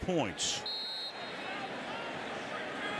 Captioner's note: whistle